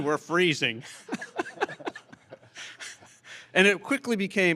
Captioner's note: laughter